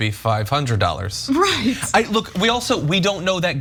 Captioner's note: laugh